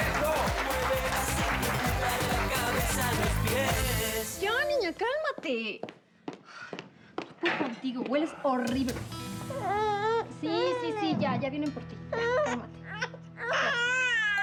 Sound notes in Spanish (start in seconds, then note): 0.0 aplausos; 9.3 llanto de la bebé